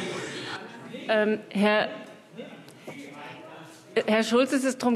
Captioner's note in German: Zurufe: Das heißt „Sie“!